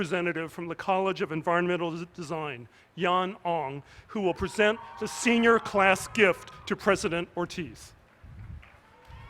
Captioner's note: cheers